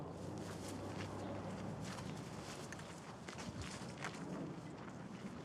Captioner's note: footsteps crunching